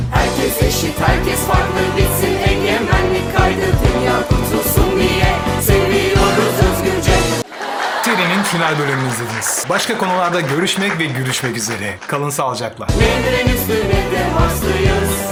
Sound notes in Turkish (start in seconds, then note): 7.0 coşkulu tezahürat